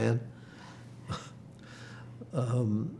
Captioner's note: laughing